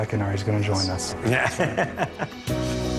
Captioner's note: laughing